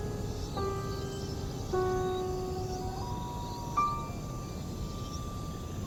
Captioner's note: slow piano; aggressive birds